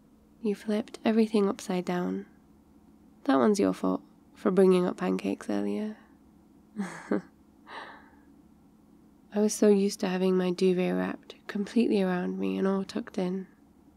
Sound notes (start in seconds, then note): 6.8 laughs